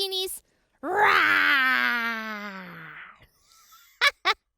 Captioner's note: Marvie roars; Marvie laughs